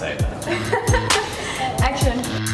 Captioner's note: giggles; upbeat music